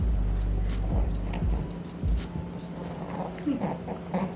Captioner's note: rabbit grunting